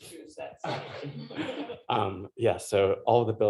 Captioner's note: laughter